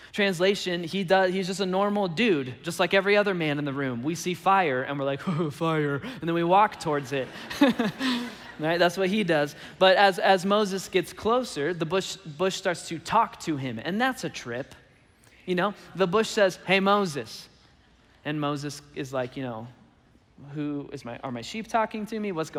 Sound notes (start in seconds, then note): 5.4 chuckles; 7.2 laughs